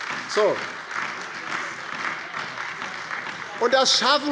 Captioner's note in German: Beifall bei der LINKEN und der SPD sowie bei Abgeordneten der FDP